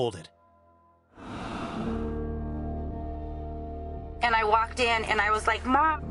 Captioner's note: air whooshing